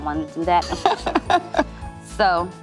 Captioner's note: laughs